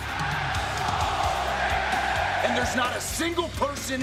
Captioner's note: crowd cheering